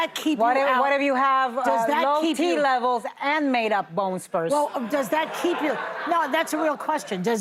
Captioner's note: laughter